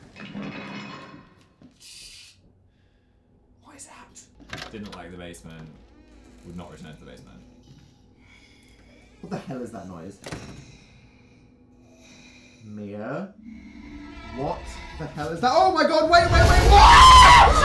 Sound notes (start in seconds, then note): 0.0 crash; 1.8 shushing; 2.8 whispering